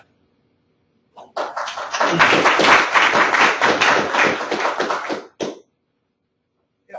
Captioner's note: audience clapping